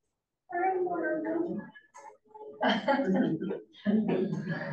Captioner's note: audience chatters faintly